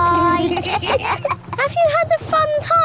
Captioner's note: kids giggling